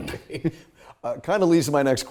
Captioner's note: laughs